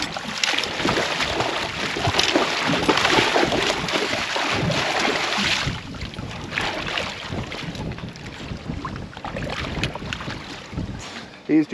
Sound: fish splashing

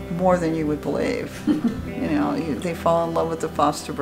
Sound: chuckles softly

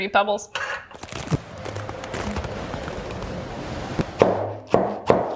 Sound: ice crackling; wind swirling; knife thudding

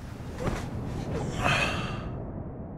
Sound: exhale

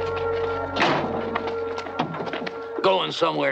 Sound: truck doors closing

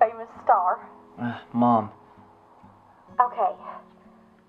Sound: sigh

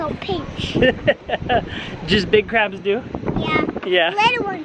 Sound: laughter

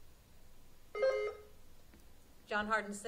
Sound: buzzer sounding

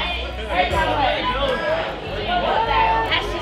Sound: kids chatting

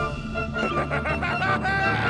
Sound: maniacal laughter

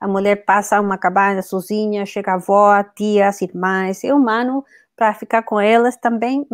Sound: speaks portuguese

